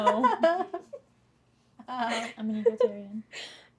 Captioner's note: laughter